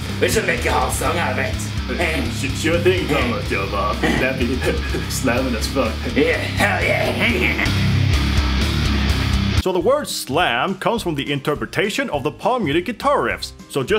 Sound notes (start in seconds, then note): 1.9 giggling continues; 3.9 giggle